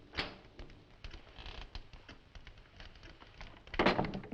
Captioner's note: door clicking